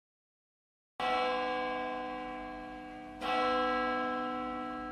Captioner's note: bell chimes